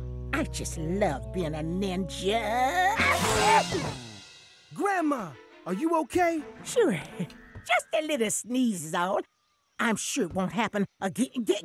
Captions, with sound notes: I just love being a ninja... [sneezing] Grandma, are you okay? Sure. Just a little sneeze is all. I'm sure won't happen....